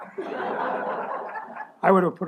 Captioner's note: laughter